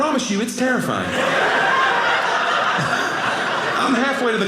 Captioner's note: audience laughing